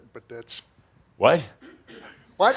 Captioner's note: chuckling